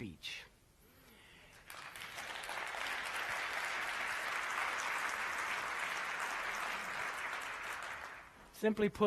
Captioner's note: applause